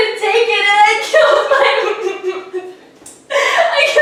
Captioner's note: sobbing